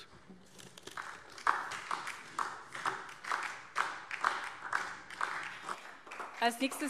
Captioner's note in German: Beifall DIE LINKE und vereinzelt SPD